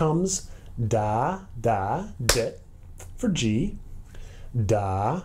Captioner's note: single clap on dit